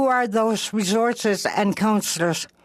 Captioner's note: speaking Alternate Language